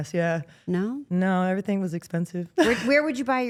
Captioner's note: laughs